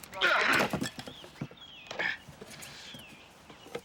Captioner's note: men groaning